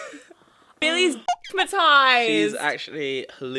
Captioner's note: beep